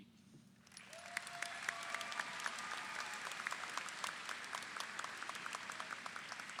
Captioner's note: audience applauds; audience cheers